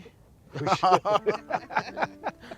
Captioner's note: all laughing; chuckles